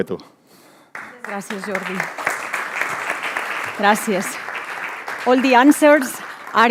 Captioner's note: speaking in foreign language; audience applauding; speaking in foreign language